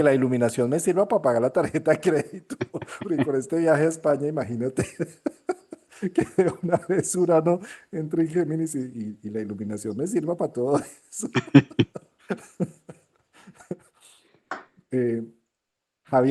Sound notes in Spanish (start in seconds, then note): 4.4 risas; 13.7 risas